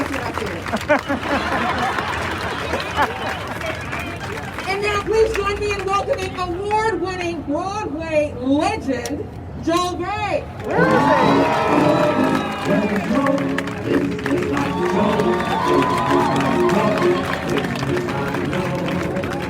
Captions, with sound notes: That's what I said. (crowd laughing) And now please join me in welcoming award-winning Broadway legend, Joel Grey. (crowd cheering) (happy, upbeat music)